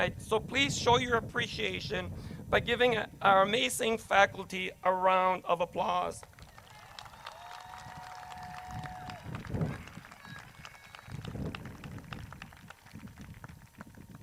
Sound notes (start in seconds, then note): 6.2 crowd claps